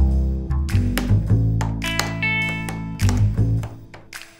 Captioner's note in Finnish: näppäimistön naputtelua